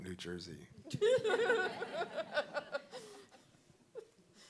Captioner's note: audience laughing